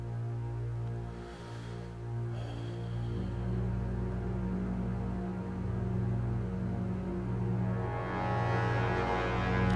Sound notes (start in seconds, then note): 1.7 sighing